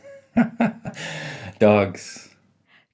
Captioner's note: laughing